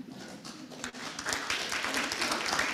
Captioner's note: applause